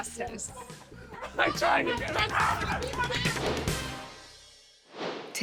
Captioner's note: both yelling tense conversations